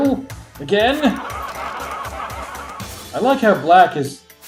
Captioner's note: soldiers laugh